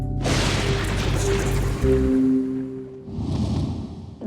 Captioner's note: thundering